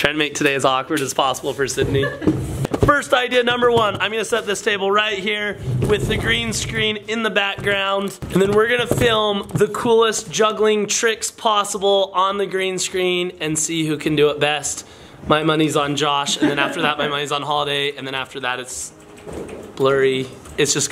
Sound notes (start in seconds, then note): 1.8 laughs